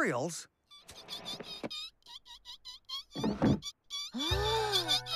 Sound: squeaks Continue; Bob & Roley Gasp

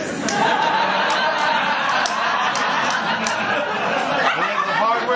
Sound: laughter

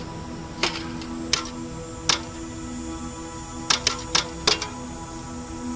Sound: shovel scraping dirt

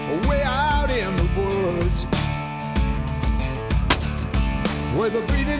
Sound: gunshot

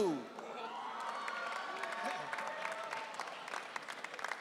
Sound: audience cheering

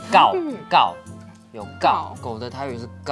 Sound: in Taiwanese

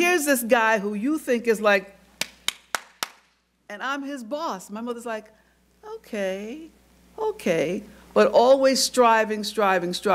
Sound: claps

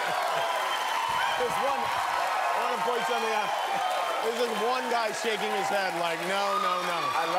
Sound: cheers and applause

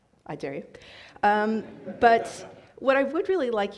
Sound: audience laughs

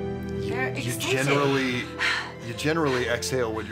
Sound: heavy breathing

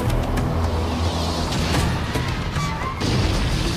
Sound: native music; fire explodes

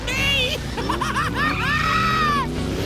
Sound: laughing

